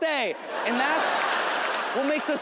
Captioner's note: audience laughing